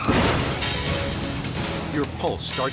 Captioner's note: metals slam